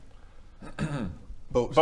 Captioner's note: ahem